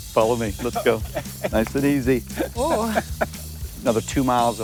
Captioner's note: chuckles